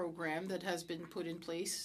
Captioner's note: speaking French